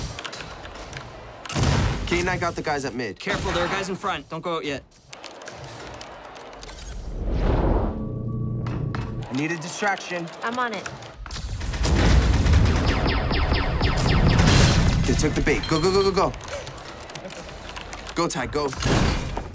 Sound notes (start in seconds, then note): 0.0 keyboard clicking; 5.0 keyboard clicking; 7.3 wind rushing; 11.0 guns firing